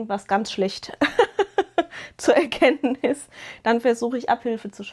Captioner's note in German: gelächter